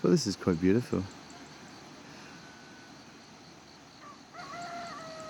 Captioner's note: birds chirping